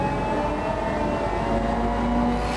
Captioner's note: whirring sound